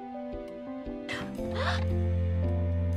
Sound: ANNIE gasps; BRITTA gasps

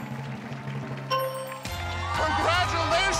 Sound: bell dings; cheers and applause

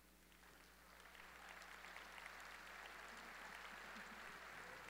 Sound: audience applauding

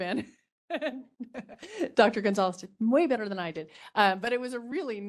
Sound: laughing

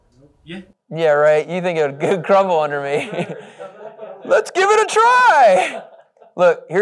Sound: laughing

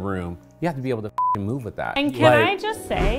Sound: beep

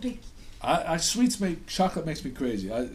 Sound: voiceover

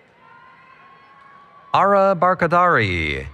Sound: cheering

